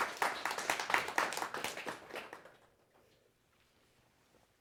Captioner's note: applause